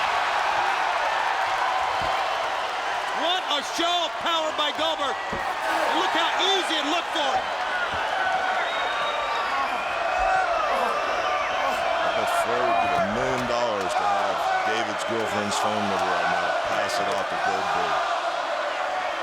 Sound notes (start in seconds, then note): 0.3 crowd cheering; 8.1 crowd chanting "Goldberg"; 9.5 Flair groans